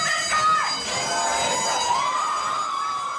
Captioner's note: cheering and Alarm Sounds